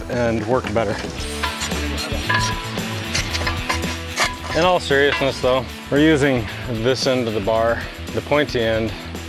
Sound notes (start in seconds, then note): 0.8 upbeat music; 1.2 metals clanking